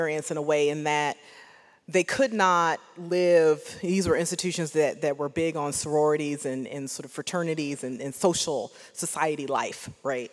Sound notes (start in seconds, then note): none